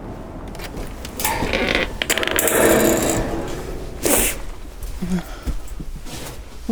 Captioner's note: door squeaking